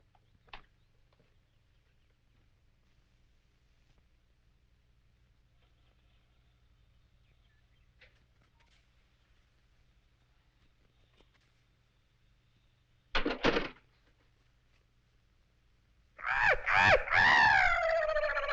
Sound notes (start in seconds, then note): 12.4 door closes; 16.2 bird cawing